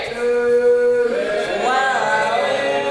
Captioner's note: audience boos